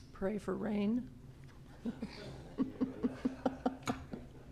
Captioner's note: laughs